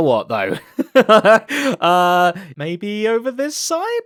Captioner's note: laughs